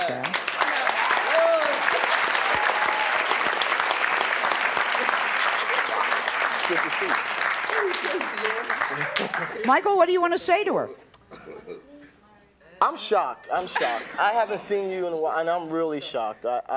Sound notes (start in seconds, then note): 0.6 applause